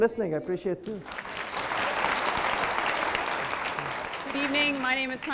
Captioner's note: audience clapping